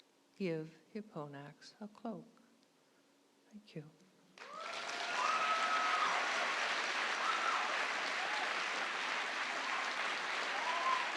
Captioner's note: applause